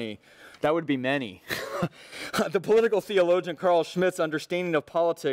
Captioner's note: laughs